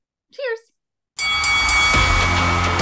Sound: bell ringing; upbeat music

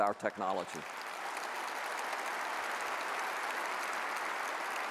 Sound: audience applauds

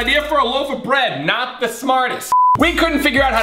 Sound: beep

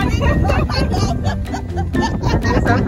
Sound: laughter and chatter

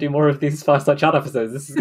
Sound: laughs

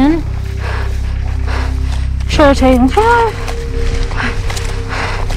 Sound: breaths heavily

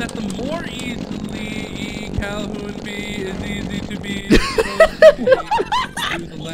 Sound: laughter

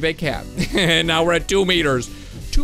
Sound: laughing

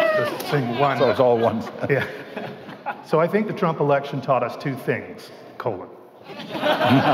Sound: laughter

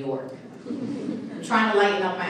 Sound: audience laughing

